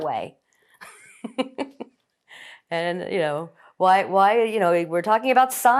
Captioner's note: laughing